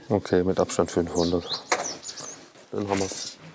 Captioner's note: birdsong